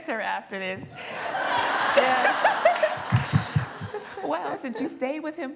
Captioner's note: laughter